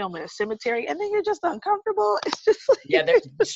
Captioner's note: laughs